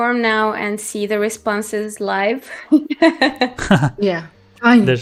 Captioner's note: laughs